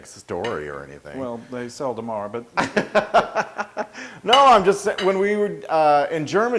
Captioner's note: laugh